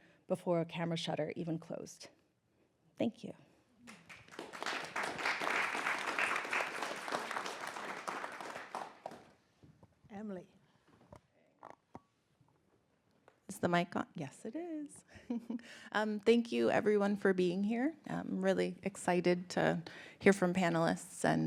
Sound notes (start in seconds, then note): 3.9 audience applauding; 15.1 giggles